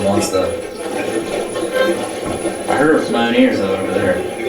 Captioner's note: cacophony of static